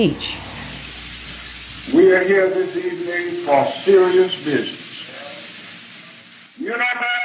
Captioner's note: soundbite of archived recording